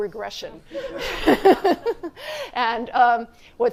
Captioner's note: laughter